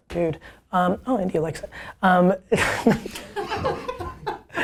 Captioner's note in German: Lachen